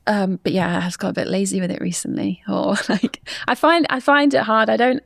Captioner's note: chuckles